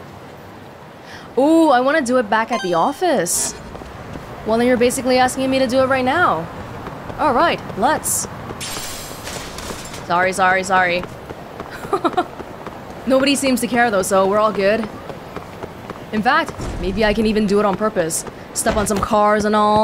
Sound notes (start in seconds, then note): 11.7 chuckles